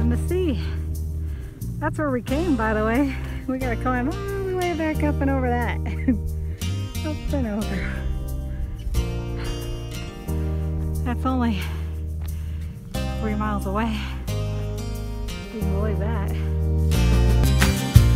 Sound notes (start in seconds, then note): 5.8 laughing; 6.1 sighs; 17.9 upbeat music